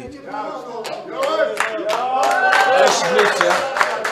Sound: people clapping from the audience

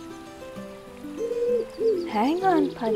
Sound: pigeon Cooing

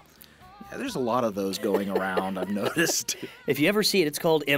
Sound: laugh; chuckle

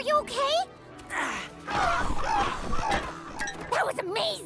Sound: squawking

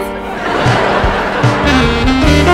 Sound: laughing

